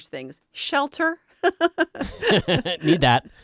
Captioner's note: laughing